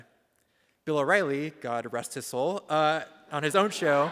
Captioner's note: audience laughs